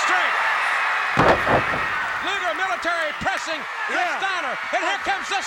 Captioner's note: crowd cheering